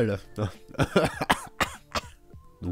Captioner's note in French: Rire toussant